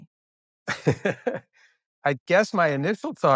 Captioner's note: laughing